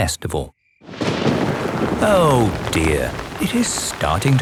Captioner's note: thunder rumbling